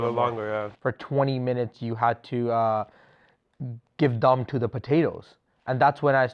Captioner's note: steam